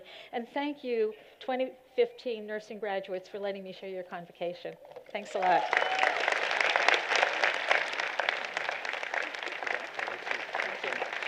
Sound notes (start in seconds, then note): 5.2 applause